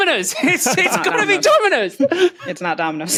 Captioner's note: laughs